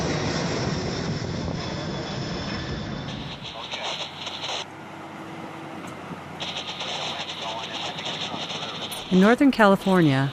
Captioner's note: sound of airplane, radio traffic